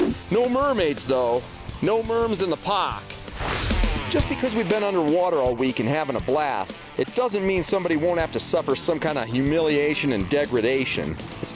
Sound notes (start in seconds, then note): 3.0 hard rock instrumental; 3.2 swooshing